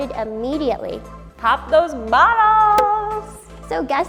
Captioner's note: cork pops